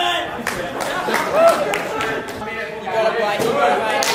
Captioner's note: audience cheers